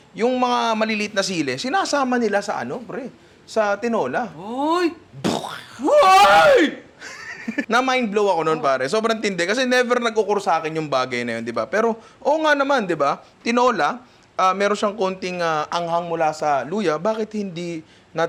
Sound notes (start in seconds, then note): 5.3 laughs; 5.3 screams